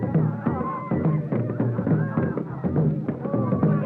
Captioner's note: crowd cheers